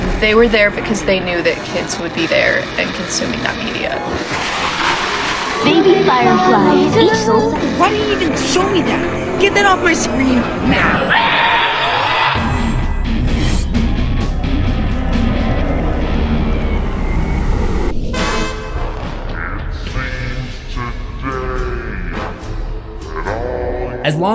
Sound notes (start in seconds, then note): 4.7 creepy scuttling sounds; 11.5 screaming child